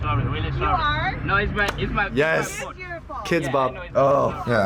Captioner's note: claps